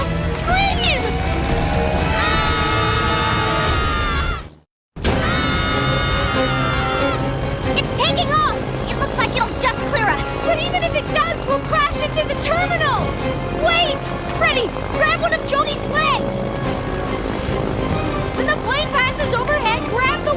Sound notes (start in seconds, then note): 0.8 screaming